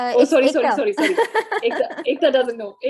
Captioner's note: chuckles